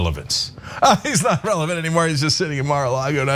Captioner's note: laugh